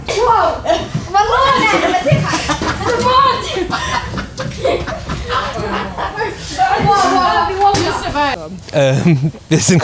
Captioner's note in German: gelächter; gelächter